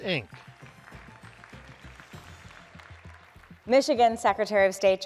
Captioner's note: audience applauding